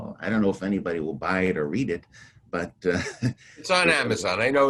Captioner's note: chuckles